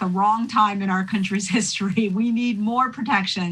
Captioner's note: chuckling